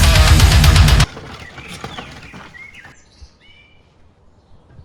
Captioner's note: birds Chirping